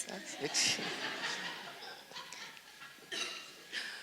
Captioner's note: audience laughs